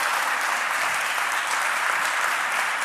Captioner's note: applause